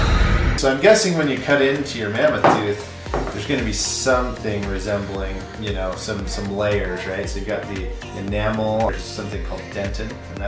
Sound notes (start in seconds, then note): none